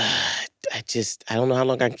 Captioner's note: sighs